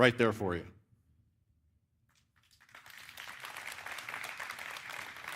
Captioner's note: applause